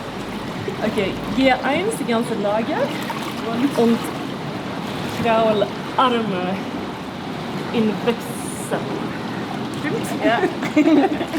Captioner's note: laughs